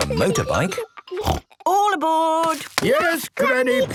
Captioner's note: snort